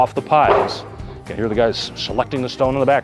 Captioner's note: thuds